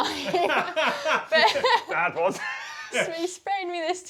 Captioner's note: both laugh